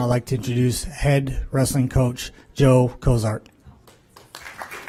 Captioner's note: applause